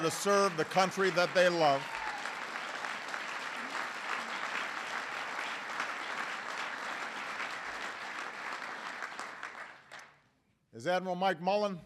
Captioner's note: applause